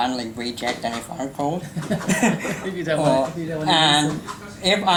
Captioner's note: laughs